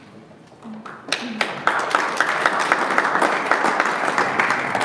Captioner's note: audience applauding